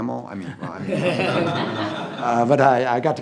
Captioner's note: all laughing